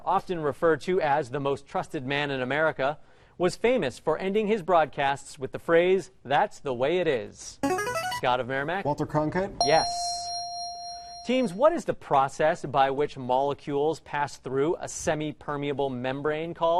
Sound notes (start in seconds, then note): 7.6 ringer; 9.6 ding